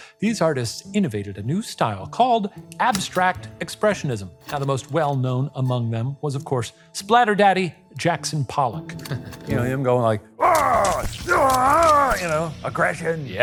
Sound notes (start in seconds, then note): 10.4 grunting